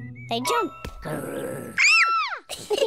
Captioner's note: growls; kids shout; all laughing